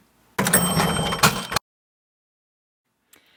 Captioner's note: bell ringing